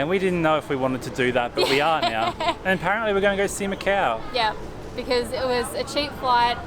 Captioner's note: laughs: Yeah